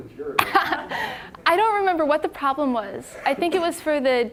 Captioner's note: laughing